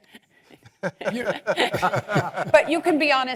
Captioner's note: laugh